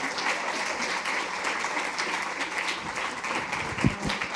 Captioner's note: applause